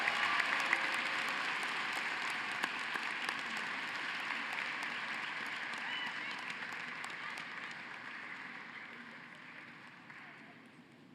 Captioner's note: cheering and applause